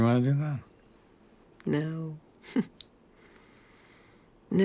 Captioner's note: chuckles